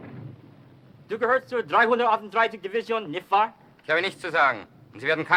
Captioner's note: speaking foreign language